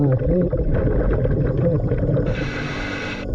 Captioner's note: gentle music continues; water lapping; mouthpiece hissing; gentle music continues